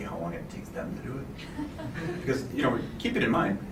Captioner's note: laughter